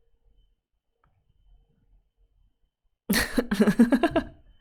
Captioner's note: laughs